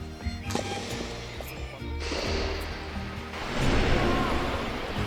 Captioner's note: stone echoes on descent